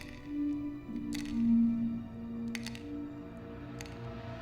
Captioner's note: medicines clatter